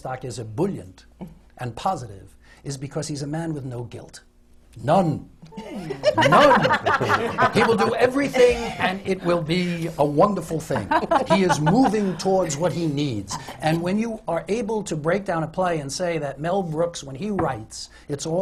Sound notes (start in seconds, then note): 5.6 laughter